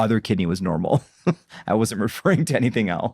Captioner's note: laughs